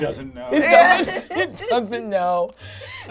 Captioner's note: all laugh